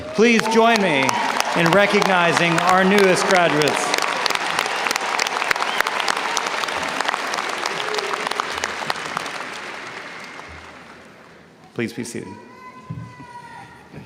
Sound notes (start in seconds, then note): 4.3 audience cheers and applauds; 13.8 students yell indistinctly